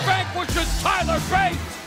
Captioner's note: bell ringing